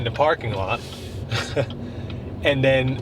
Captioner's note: laughs